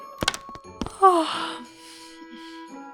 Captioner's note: yawns